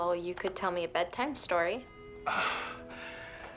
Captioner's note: sighs